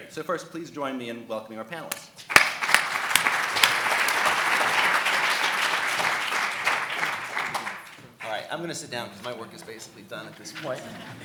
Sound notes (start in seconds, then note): 2.2 audience applauding